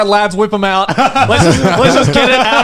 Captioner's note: laughing